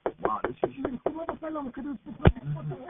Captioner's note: mom knocks; woman speaking in foreign language